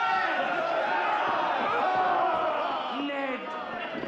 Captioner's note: all cheering